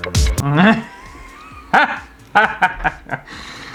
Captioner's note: laughter